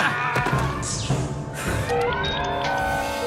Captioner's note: determined sigh